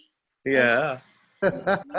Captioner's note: laughs